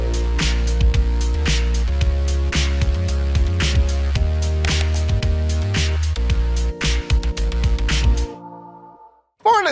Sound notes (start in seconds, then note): 0.0 upbeat electronic music; 4.6 computer mouse clicking; 5.5 upbeat electronic music